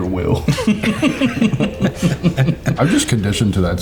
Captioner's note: all laughing